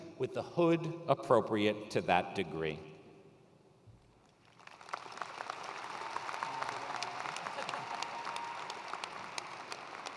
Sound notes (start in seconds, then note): 4.4 attendees applauding